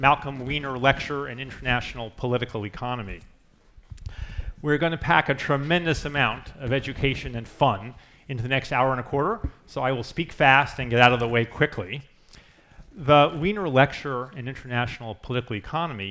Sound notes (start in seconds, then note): none